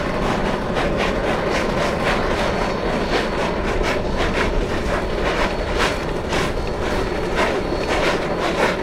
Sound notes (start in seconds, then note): 0.0 rotary and locomotives all loud